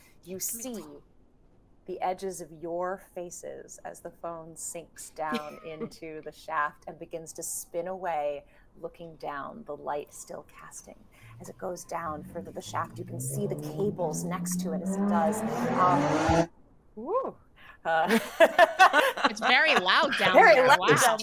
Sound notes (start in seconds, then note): 15.8 car revving; 18.0 players laughing